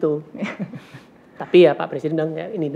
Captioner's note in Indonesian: tertawa